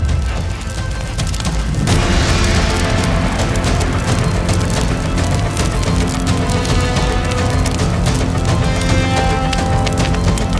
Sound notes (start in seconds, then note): 2.1 burning